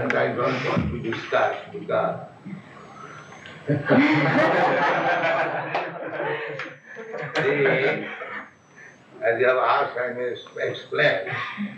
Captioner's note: laughs; laughter